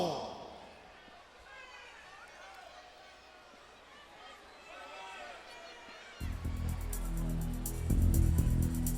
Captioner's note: crowd chatter